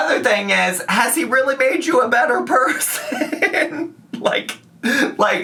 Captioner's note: laughs